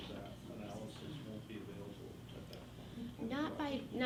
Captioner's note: faintly speaking